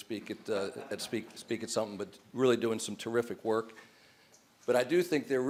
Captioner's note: laughter